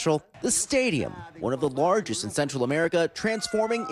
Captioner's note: speaking non-english